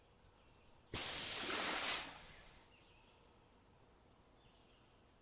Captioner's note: water splashing